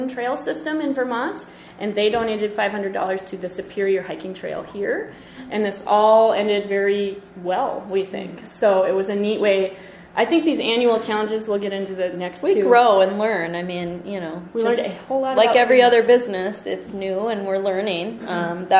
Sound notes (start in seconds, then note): 12.7 voiceover